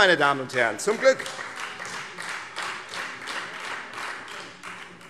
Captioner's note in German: Beifall Freie Demokraten und vereinzelt SPD